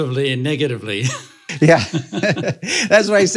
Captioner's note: laughing